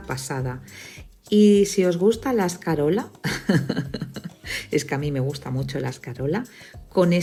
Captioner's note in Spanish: risas